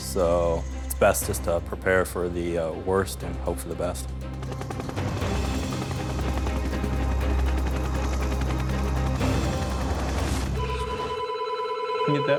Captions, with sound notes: It's best just to prepare for the worst and hope for the best. (dramatic music) (helicopter blades thudding) (phone ringing)